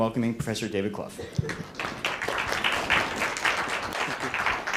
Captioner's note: applause